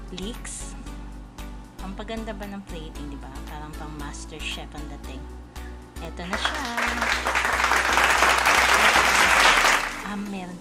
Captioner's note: clapping